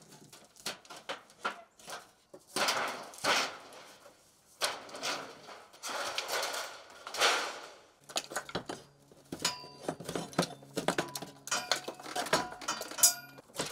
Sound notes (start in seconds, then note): 4.6 metal sheet clanging; 10.8 debris clinking